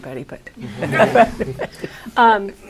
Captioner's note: laughter